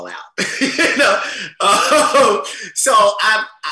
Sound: laughs

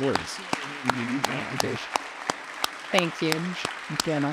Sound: audience applauding

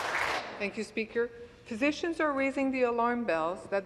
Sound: applause

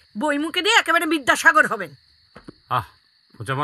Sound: none

